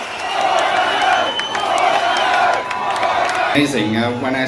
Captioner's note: Crowd chants 'Paul van Dyk'